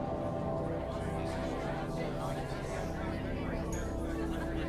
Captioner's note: patrons chattering